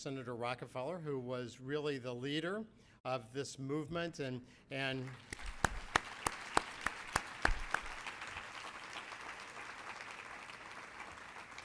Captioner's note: applauding